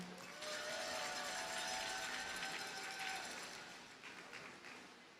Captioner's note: audience cheers and applauds